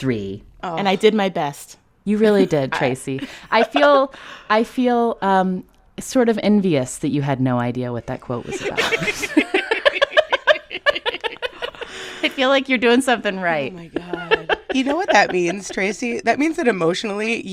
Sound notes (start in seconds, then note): 8.5 laughter